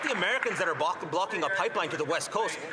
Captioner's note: some Applause